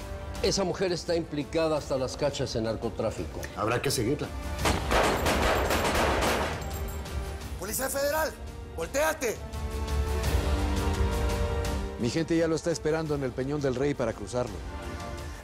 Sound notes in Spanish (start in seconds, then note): 4.6 Disparos